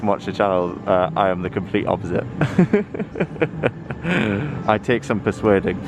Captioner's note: laughter